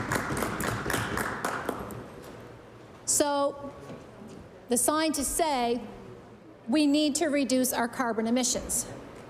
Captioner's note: applause